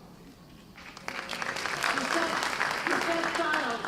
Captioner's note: applause